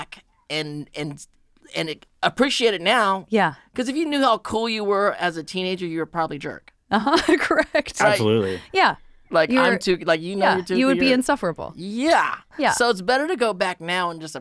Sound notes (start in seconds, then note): 8.0 laughing